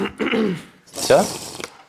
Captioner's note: water sips: 2